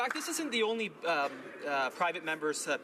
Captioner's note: applause